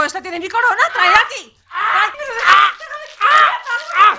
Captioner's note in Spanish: ruidos malévolos de cóndor demoníaco enojado